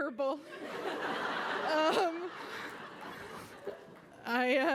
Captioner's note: laughter